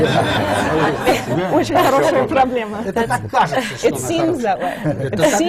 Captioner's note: laughter; foreign language not transcribed